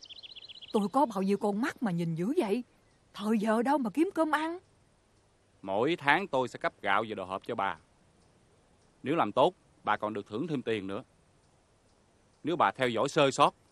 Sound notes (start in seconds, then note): none